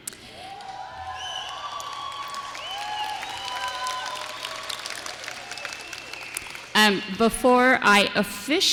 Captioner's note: applause